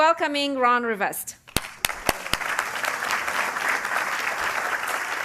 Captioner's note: applause